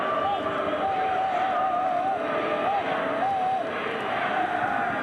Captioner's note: referee blows whistle; indistinct fan shouts